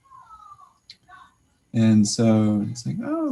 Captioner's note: background chatter